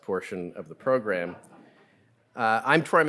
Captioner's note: audience laughing